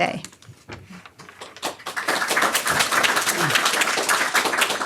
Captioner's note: audience applause